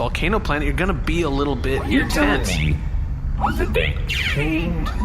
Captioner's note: emphasis on every word